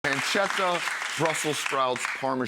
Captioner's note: audience applauding